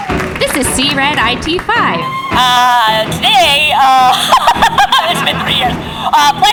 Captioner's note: voice filter comes on; laughs